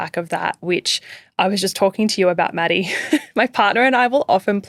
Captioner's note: chuckling